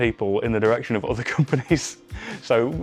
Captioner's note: chuckling